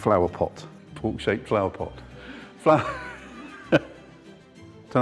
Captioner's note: laughs